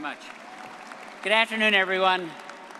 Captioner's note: all applauding